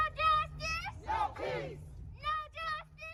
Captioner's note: crowd